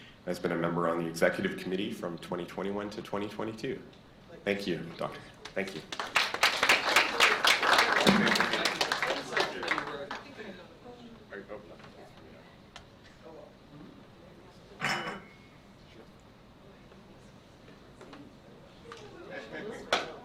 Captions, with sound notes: Has been a member on the Executive Committee from 2021 to 2022. Thank you, Dr. Thank you. (applause) - Sure.